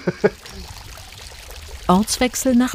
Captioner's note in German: Plätschern